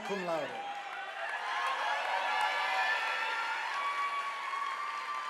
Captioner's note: audience applauding